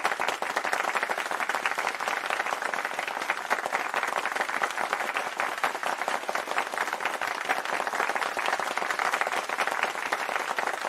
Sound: applause

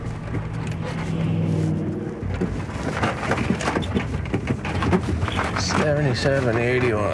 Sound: tires rumbling; cars whooshing

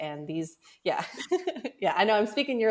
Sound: both laugh

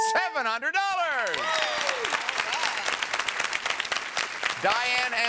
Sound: audience applauds

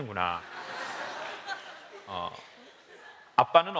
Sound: laugh

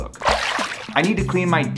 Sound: water splashes

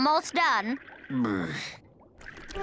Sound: groaning

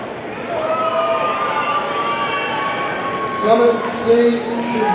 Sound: audience cheering

